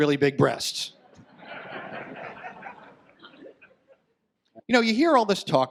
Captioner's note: audience laughs